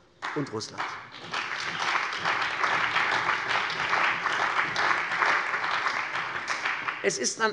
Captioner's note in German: Beifall bei der CDU und dem BÜNDNIS 90/DIE GRÜNEN